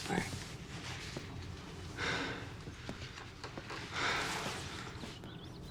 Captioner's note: breathes heavily